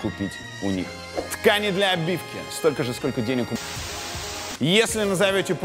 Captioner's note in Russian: помехи